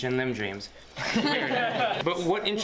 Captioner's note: crowd laughing